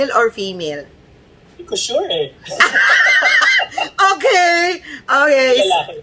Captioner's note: laughter